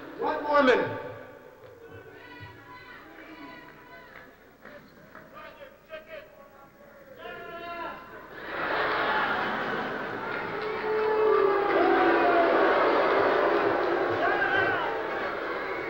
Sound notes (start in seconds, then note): 9.7 booing